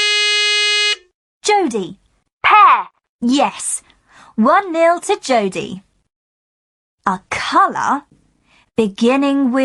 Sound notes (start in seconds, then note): 0.0 buzzer